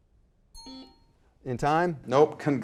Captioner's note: bell dings; buzzer buzzing